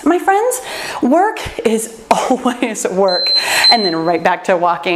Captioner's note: timer beeps